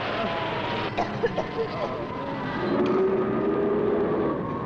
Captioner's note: lady coughing